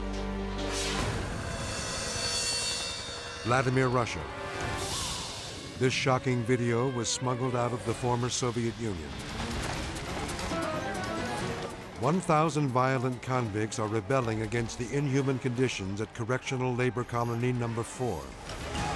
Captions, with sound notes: (scene swooshing) Vladimir, Russia. This shocking video was smuggled out of the former Soviet Union. (flames roaring and crackling) 1,000 violent convicts are rebelling against the inhuman conditions at Correctional Labor Colony Number Four.